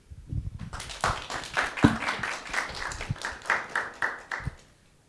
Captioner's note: audience clapping